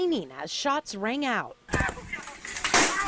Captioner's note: sound of gunfire